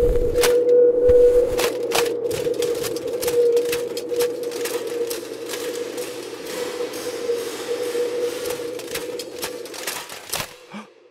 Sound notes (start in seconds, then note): 1.5 clanking of armor plates; 4.8 clanking of armor plates dissipates into echoes; 8.4 clanking of armor plates; 10.6 gasp